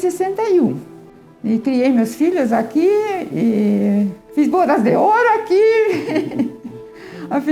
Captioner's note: laughs